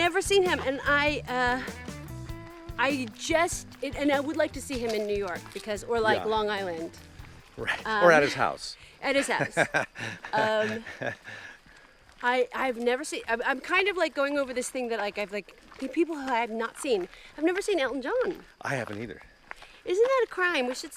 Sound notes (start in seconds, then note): 9.2 laughing